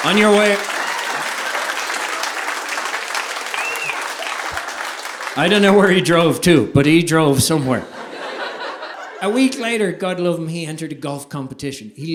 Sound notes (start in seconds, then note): 0.0 audience applauding; 2.0 audience applauding